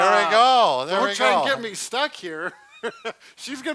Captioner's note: laughs